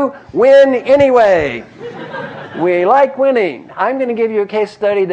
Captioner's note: laugh